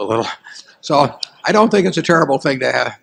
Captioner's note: laughter